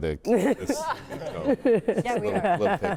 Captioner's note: all laughing